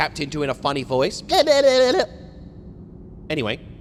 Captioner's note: funny noises